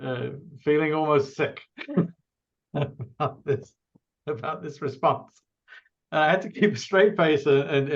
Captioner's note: laughs